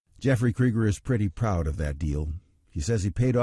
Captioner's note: voiceover